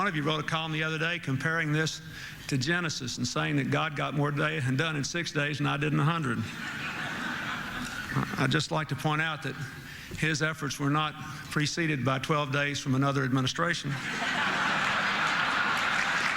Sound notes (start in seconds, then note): 6.4 laughter